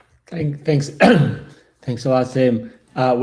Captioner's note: clears throat